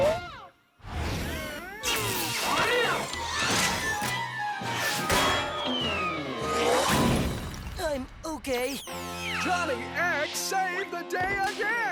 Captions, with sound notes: (FIZZLES) (METAL CLINKS) I'M OKAY. JOHNNY X SAVED THE DAY AGAIN!